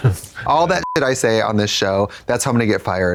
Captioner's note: beep